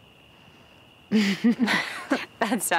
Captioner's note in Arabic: ضحك